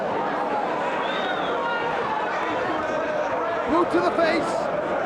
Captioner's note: spectator whistling